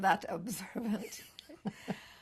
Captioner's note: laughter